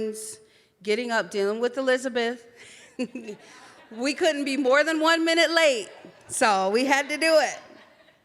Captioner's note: laughs